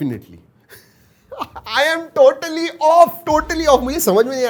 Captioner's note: laughs